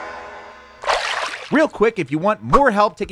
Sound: water splashes

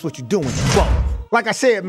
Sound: bars slamming

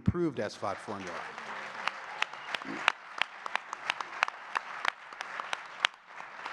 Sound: audience cheering and clapping

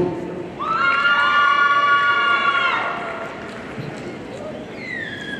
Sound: audience cheering

